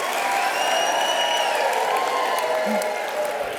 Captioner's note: cheers